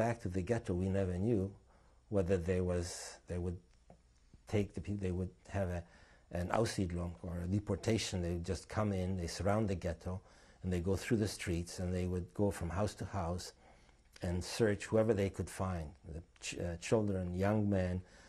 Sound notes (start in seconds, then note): 6.5 non-english